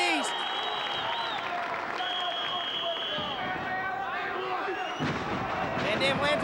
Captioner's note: audience applauding; whistle blowing; mat thumping